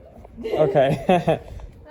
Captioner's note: laughs